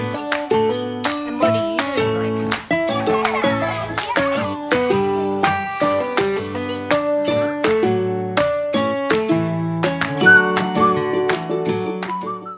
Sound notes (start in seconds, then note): 2.7 laughter